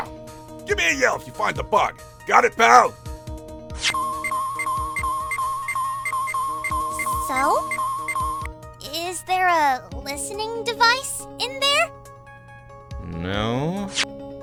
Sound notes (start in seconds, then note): 3.8 rapid beeping!